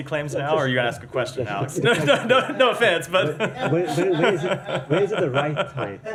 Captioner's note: laughter